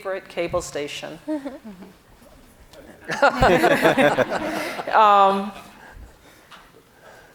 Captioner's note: panel and audience laughing softly